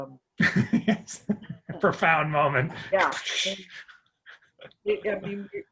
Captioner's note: whooshing